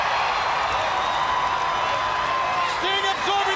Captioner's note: crowd cheering